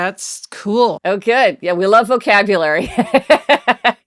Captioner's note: laughs